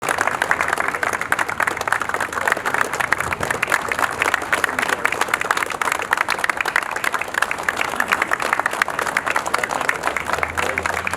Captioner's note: applause